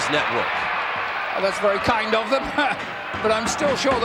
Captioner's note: laugh